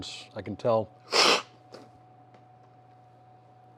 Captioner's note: sipping